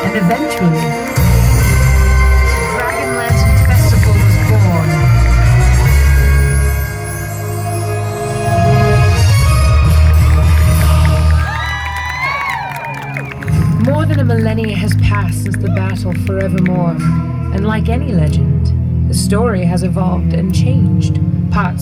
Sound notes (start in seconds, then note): 6.8 applause